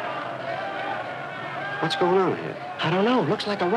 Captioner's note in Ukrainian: гуркіт натовпу